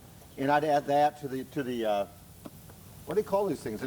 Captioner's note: stammers